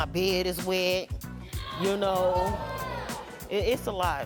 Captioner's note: audience reacting